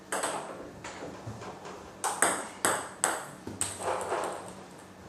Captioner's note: balls ping pong hitting continues